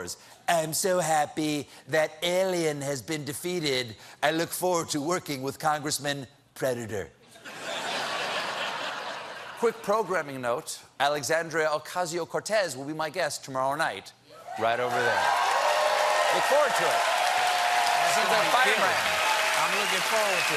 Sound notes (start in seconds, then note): 7.3 laughter; 14.5 cheers and applause